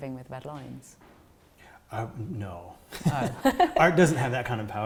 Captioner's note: laughter